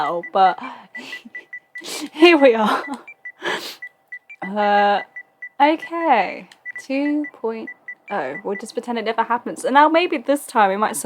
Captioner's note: laughs